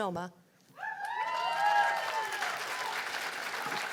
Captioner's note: cheers and applause